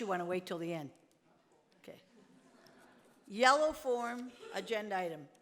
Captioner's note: speaks off mic